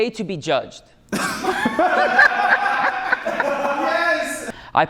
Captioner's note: laughter